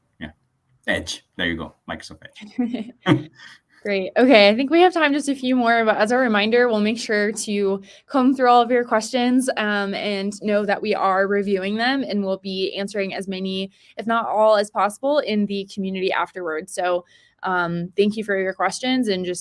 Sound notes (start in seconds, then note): 2.5 laughter